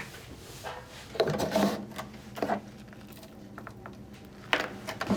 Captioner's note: washing machine sounds